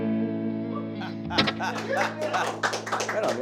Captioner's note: laughing; audience applauding